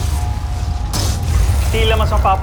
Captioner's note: crystalline chimes & whoosh; thuds